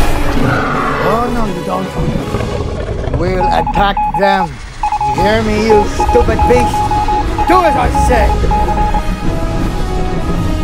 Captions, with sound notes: Oh no you don't. (beeping sounds) We'll attack them. You hear me you stupid beast? Do as I said!